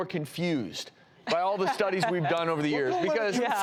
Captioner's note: laughter